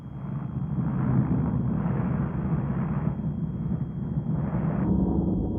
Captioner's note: plane engines rumbling